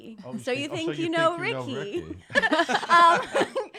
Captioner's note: laughing